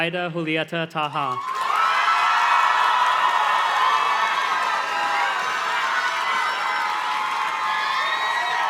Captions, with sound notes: Ida Julieta Taha. (audience cheers and claps)